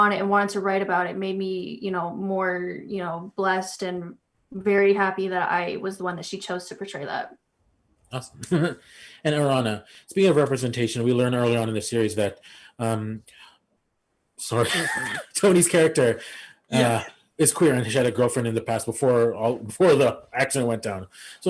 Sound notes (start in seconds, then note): 14.4 laughs